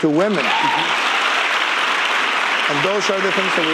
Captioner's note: audience cheering and applauding